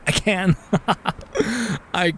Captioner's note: laughs